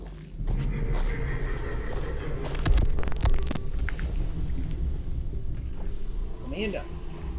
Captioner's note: rumbling eerie sounds echo; static hisses